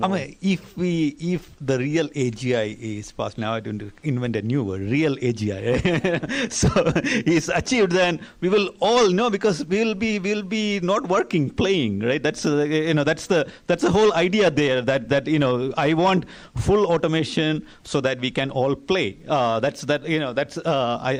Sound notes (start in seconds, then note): 5.6 laughter